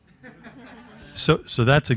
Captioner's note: panelists laughing